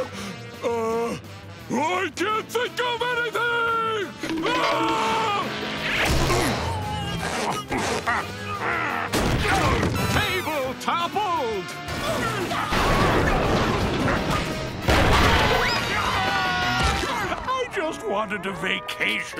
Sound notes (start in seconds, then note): 4.4 screaming; 15.2 screaming